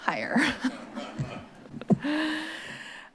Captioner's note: laugh